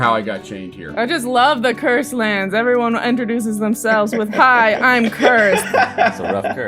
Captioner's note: laughter